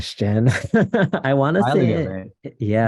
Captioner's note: laughs